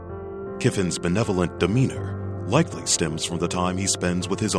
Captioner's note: voiceover